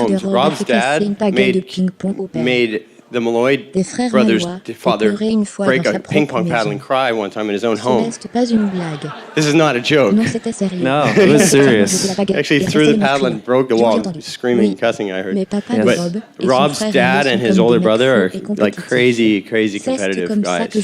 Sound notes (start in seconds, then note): 8.0 crowd laughing